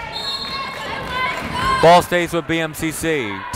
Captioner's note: whistle blowing